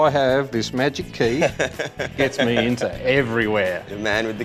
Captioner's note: laughing